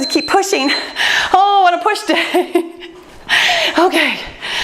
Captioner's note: timer beeps; laughs